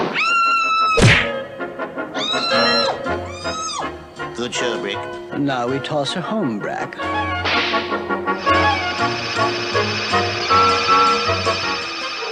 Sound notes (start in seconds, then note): 0.1 Sweet Polly Screams; 0.9 smack!; 2.2 Sweet Polly Screams